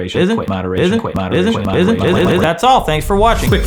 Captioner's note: word glitching